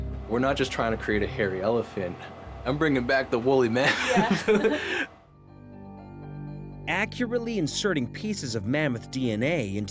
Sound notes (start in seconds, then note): 3.8 laughing